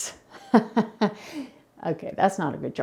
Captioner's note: laughing sarcastically